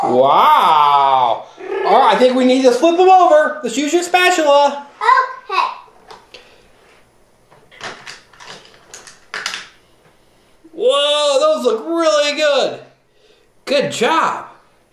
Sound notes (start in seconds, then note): 7.9 clanking